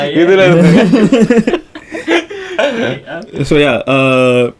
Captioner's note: group laughs